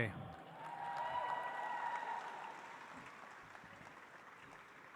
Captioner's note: audience applauds